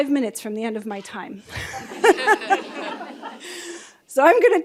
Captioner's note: laughing